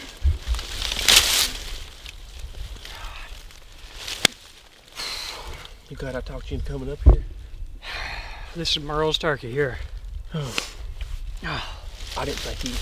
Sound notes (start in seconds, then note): 0.0 leaves rustle; 4.1 hands smacking; 5.0 sighs; 7.8 sighs; 11.4 groans